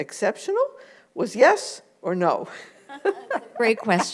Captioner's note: laughs